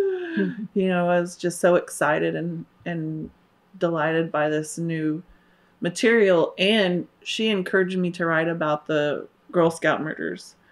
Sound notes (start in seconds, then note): 0.6 gasps